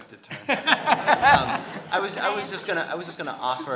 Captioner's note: audience laughing; laughing